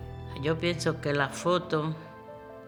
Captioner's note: speaking spanish